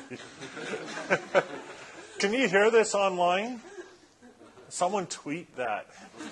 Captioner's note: laughs